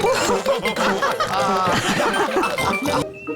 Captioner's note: all laughing